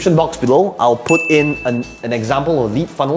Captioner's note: bell ringing